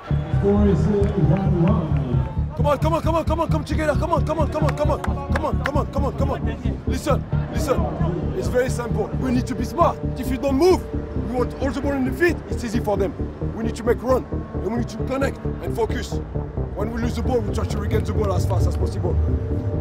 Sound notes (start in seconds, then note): 4.4 claps